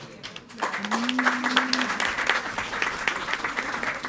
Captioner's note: all applauding